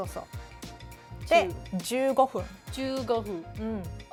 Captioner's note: speaking Japanese